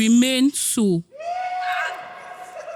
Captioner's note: crowd cheering